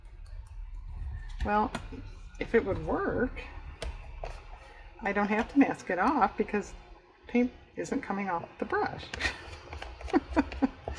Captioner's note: laughs